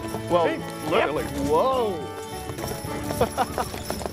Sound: laughing

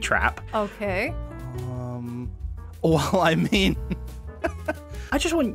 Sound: laughs

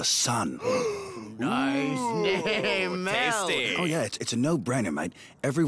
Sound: both gasp

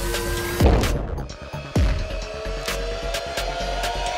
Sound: ball dunking

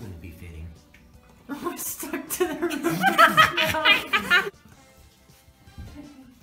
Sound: all laugh

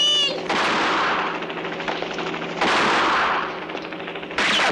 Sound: gunshot

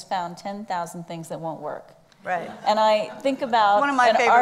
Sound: laughs

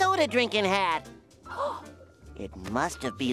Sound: gasping

